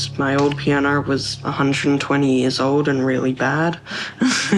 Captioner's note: laughs